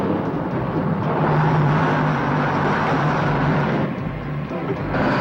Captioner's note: truck whizzes